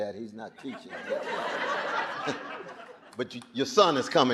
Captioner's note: audience laughing